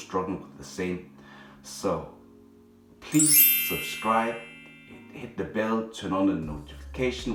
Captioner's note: bell chimes